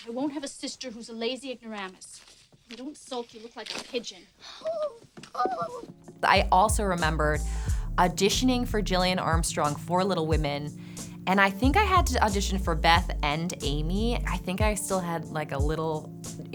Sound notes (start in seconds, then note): 5.3 Amy cooing